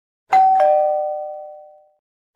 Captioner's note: doorbell Rings